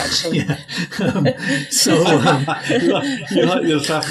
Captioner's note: laughing